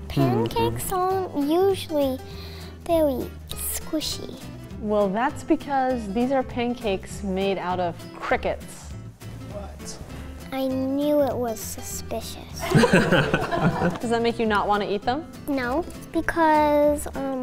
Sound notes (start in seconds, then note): 12.6 they chuckle